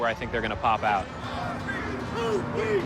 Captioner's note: chanting